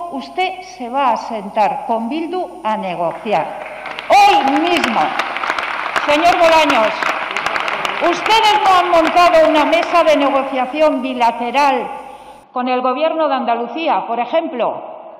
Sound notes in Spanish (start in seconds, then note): 9.1 Aplausos